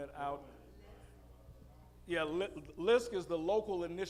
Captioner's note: audience murmuring